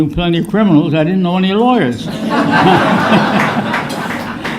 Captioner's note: laughter